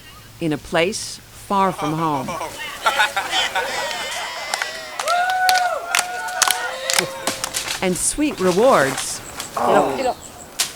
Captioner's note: clapping for ..ending water walk